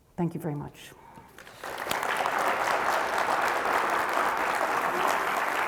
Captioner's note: audience applauding